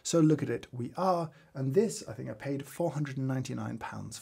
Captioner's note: none